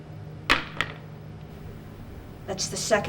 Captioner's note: gun thuds